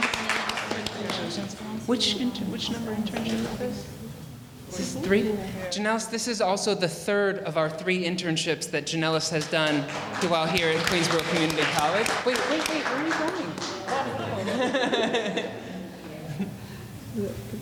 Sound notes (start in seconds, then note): 12.0 audience applauding; 14.5 laughing